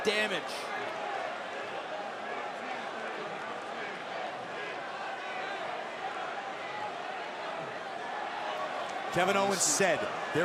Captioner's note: crowd chatter